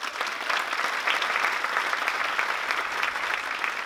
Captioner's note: applause